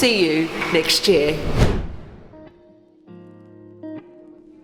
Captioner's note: air whooshing